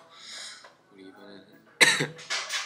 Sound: sniff; cough

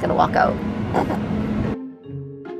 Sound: chuckle; playful music

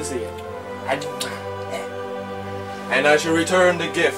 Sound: triumphant music; kisses Jabba loudly

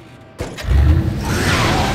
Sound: engine starts

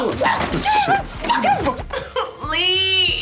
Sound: yells

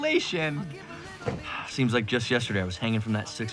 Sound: sighs

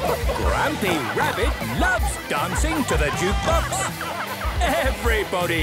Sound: shouting

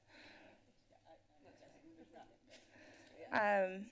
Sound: background conversations

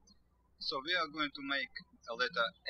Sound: birds chirping

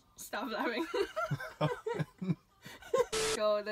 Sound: both laugh

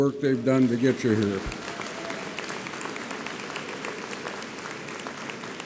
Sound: audience applauds

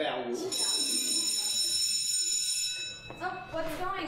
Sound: a class bell ringing

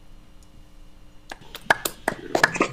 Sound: applause

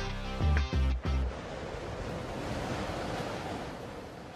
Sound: wind whistling

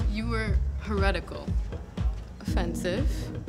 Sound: none

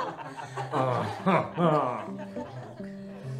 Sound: le french laugh

